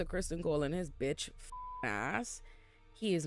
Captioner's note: beep